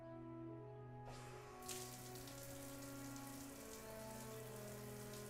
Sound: water running

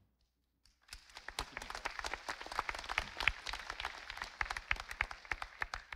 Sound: audience applauding

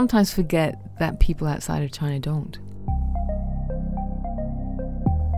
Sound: voiceover

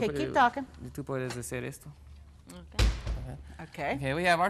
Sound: speaks in Spanish

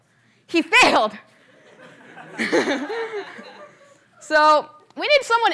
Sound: laughter

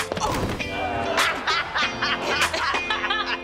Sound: laughing

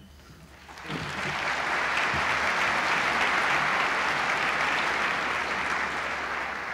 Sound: applause

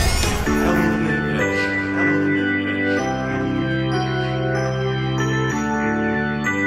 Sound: echoing

